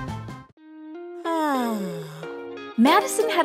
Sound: yawn

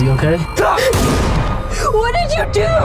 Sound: gun shot

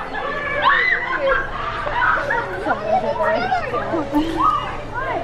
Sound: screaming and mumbling

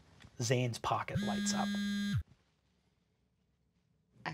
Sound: phone buzzes

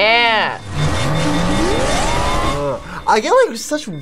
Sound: alarm beeping

